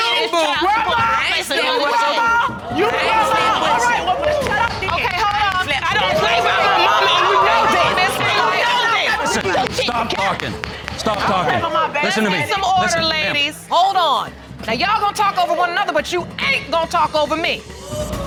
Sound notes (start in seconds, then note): 0.1 audience exclaiming; 5.6 indistinct shouting